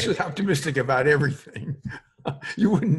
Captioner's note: laughs